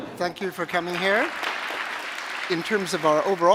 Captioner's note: applause